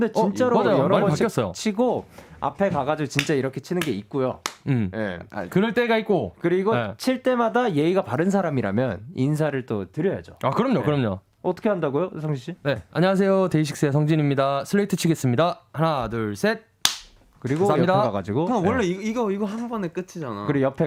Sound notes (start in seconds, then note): 18.1 politely